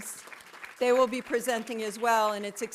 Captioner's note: audience applauding